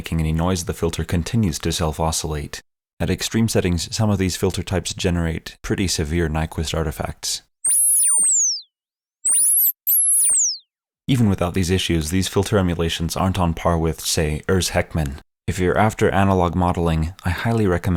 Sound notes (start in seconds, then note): 9.2 glitch Sound